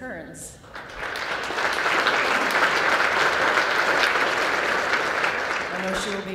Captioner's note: applause